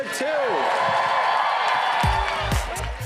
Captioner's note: cheers and applause